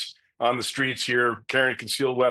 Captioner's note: chuckling